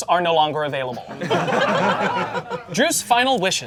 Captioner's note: audience laughing